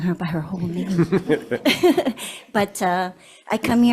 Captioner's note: board laughs